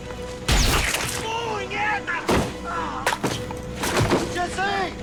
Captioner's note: shouting in Spanish